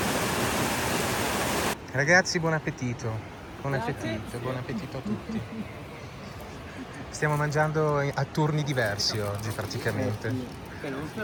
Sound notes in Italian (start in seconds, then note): 4.8 risate